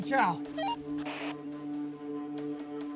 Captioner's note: radio squelch